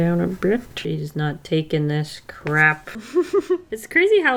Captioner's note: laughs